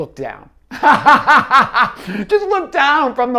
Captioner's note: laughing